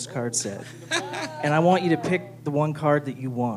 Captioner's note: laughter